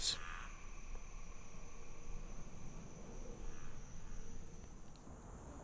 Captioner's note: insects chirping